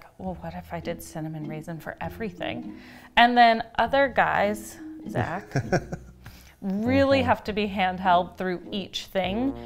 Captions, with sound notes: Well what if I did Cinnamon Raisin for everything? And then other guys, (under her breath) Zach. really have to be handheld through each thing.